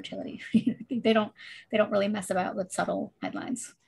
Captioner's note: chuckles